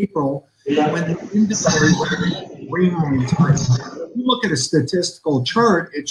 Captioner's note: audio distorted